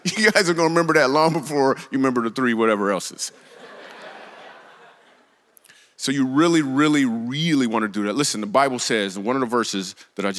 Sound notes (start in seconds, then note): 3.3 congregation laughs